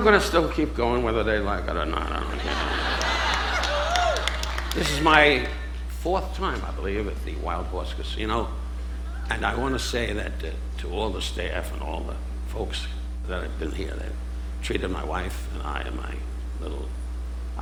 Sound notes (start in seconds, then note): 2.0 audience laughing